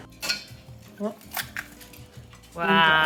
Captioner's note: egg cracks